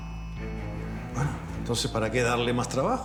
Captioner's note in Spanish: none